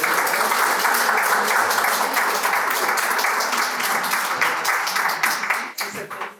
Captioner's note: applause